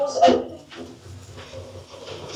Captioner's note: doors opening